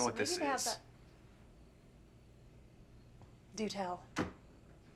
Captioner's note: crickets chirping